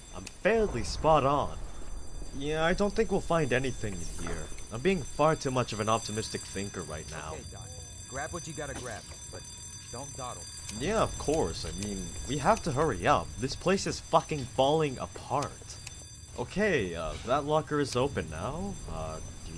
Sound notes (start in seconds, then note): none